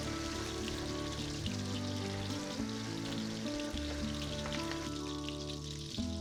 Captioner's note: butter sizzling